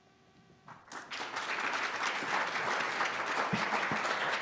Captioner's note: applause